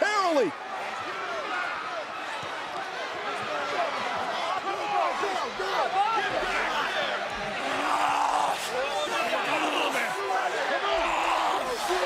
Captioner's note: applause